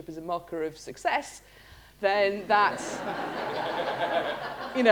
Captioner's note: laughter